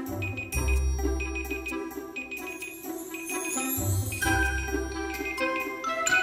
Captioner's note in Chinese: 闹钟响